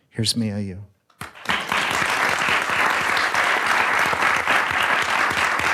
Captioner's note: audience applauds